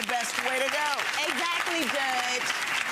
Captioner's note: audience clapping